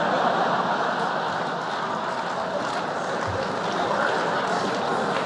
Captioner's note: laughter